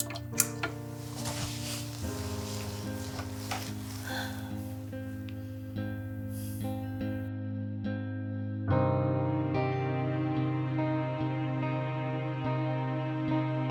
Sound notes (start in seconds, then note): 3.5 Joy sighs